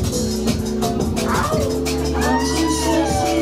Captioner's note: gentle rhythmic music continues; audience cheering